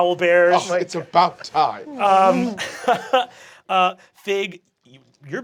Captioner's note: laughing